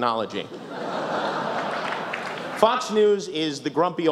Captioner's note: laughter